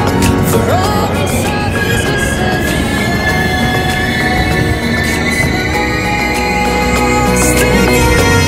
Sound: brakes screeching

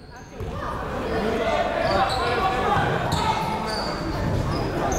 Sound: people shouting in the crowd

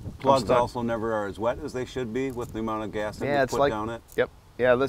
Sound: none

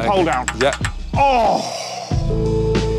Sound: groans

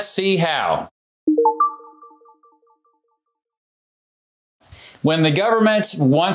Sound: information chiming

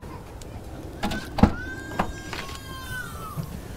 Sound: baby crying

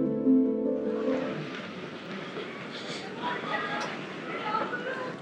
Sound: street noise

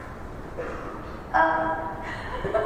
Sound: giggles

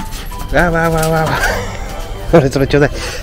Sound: laughs

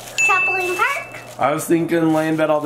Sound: bell dings; plastic rustling

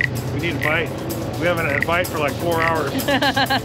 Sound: wood rubbing

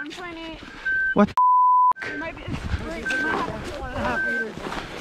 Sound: beep

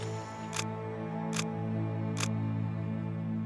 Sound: camera clicks

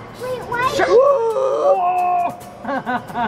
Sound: gasps

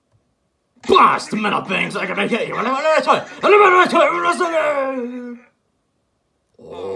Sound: Bowser muttering in anger

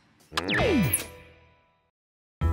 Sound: click

